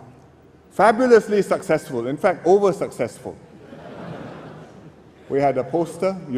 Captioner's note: laughter